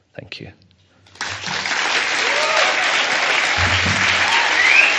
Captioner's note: applause and cheering